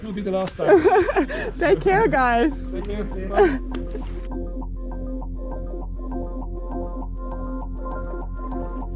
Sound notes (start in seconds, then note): 0.6 chuckling; 5.3 upbeat music